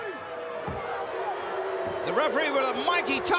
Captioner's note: crowd boos